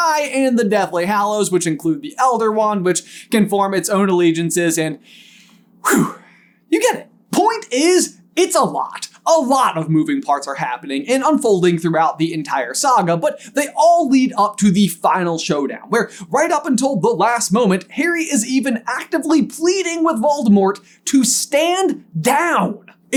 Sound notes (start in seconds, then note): 5.0 exhale